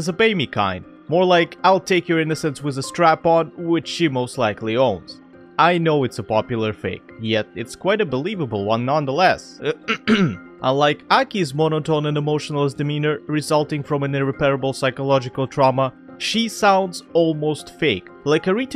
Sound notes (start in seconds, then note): 9.7 ahem